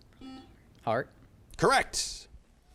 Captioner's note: buzzer chimes